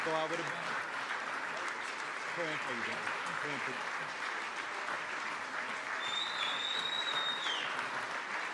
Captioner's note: applause